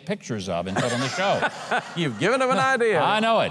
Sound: laughing

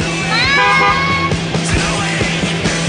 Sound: horn honk; upbeat rock music

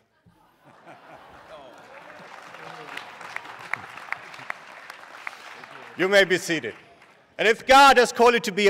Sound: laughter; applause

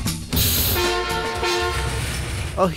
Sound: horn honks

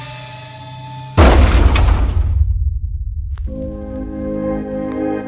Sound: drone crashes; uplifting music

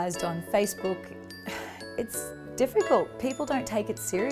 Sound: sighs

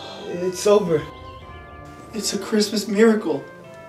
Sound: birds chirp

